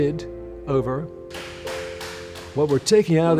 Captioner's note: hammering